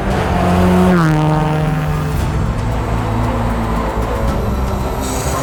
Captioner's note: engines revving